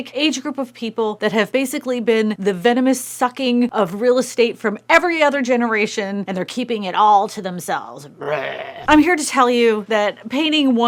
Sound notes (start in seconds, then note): 8.2 growl